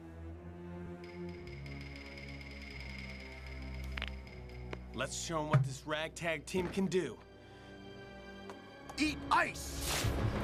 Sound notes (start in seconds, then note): 3.0 knuckles crack